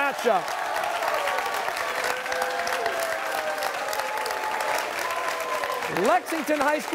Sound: cheers and applause

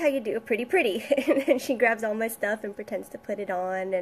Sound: laughs

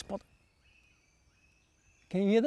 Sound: birds singing

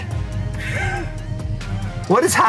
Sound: laughs

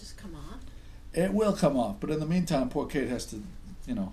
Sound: voiceover

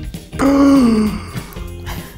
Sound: gasp

